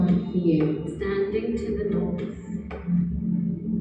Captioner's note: recorded Voice